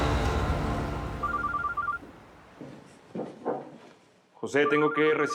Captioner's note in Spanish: suena el celular